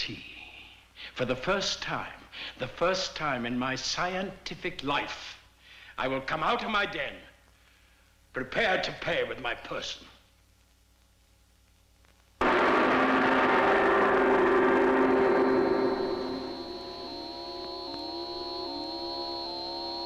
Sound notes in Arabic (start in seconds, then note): 12.4 هدير محرك الصاروخ; 16.2 صوت صفير الشاشة